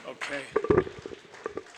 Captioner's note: audience applauds